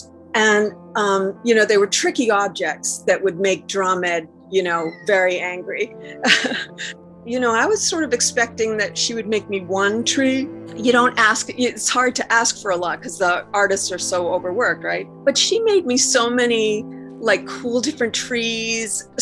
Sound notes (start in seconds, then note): 5.9 laughing